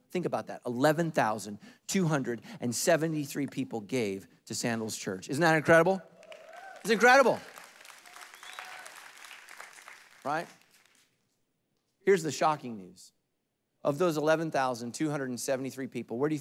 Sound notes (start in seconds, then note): 6.1 congregation applauding and cheering